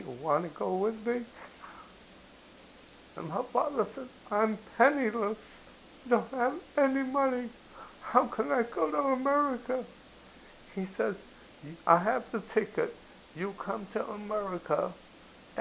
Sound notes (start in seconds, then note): none